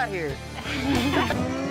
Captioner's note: everyone laughs